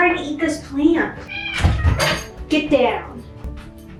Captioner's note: Stinky Cat meows